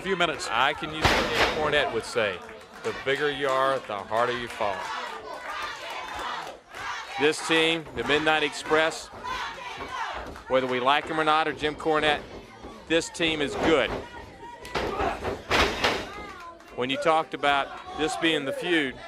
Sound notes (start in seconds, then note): 5.6 crowd cheering